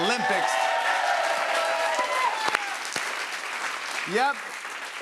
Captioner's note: cheers and applause